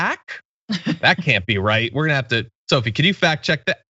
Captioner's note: laugh